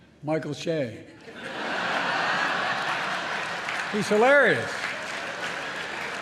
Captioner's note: laughter